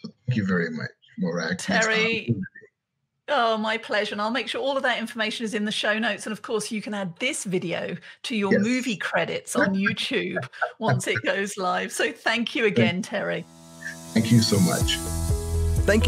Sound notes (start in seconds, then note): 9.5 laughing; 13.8 upbeat music